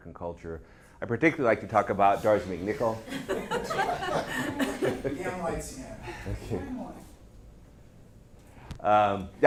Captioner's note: audience laughs at the lights fading in and out